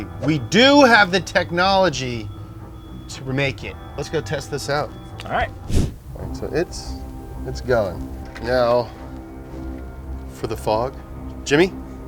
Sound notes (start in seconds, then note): 5.6 transition whooshes; 5.8 suspenseful music